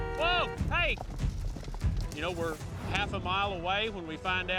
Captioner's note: car horns honking